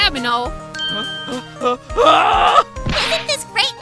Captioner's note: hyperventilating